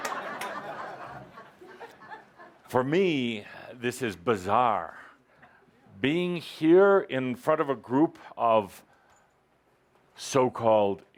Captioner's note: laughter